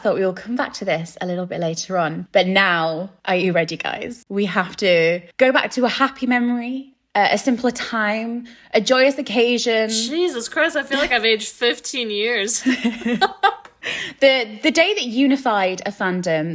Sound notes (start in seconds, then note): 12.5 laughing